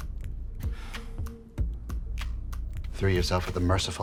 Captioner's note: Bobby sighs